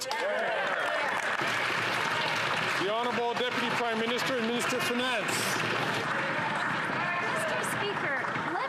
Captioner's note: some Applause